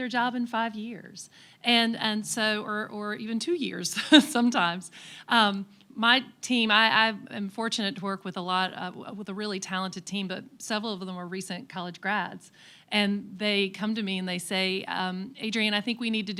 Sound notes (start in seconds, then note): 7.4 laughs